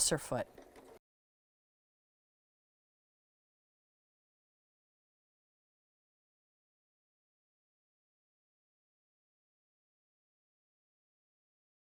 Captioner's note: no Sound Present